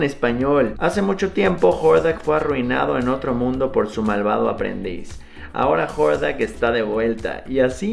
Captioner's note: reading in spanish